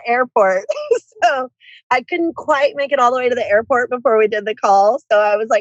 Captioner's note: laughs